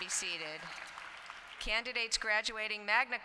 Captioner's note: applause